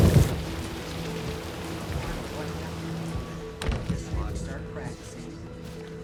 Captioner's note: people chattering